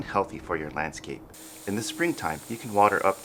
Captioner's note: water gushing